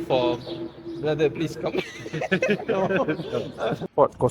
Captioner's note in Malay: ketawa